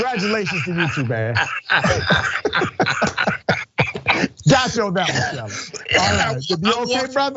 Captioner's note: laugh